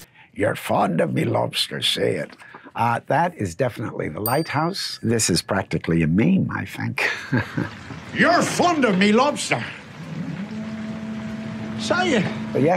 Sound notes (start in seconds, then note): 4.2 bell dinging; 7.0 chuckling